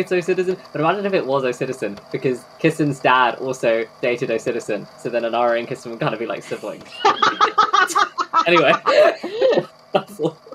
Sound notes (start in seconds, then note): 6.4 laughing